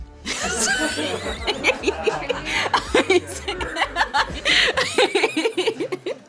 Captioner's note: host and crew laughing